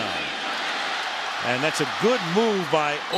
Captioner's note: cheering